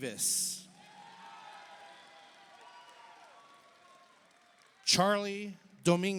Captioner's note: audience cheers; audience applauds